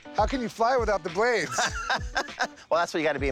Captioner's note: laughs